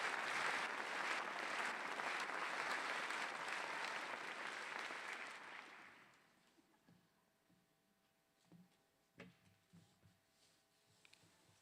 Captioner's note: applause